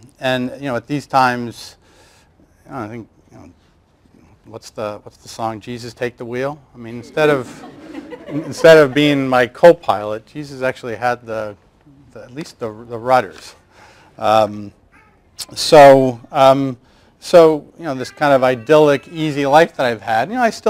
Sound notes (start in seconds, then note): 7.0 laughter